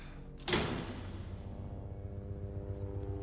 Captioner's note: door slams in background